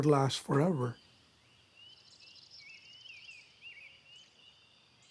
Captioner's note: birds whistling